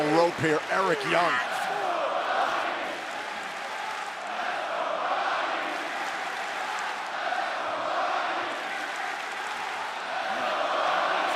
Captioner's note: crowd cheering